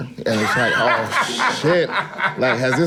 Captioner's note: cracks up